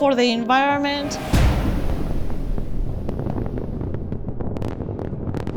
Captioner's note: explosives detonating